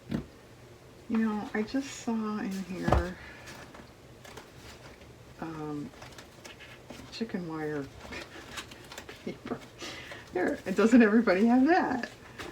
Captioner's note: laughs